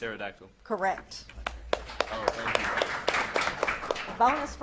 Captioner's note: audience claps